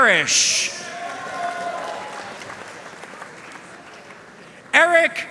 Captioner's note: audience cheering and applauding